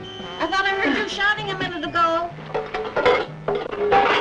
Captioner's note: pots Clinking